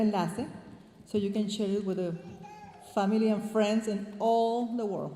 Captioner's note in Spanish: hablando en inglés